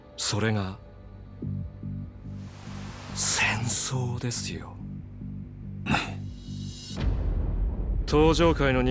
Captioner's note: snorts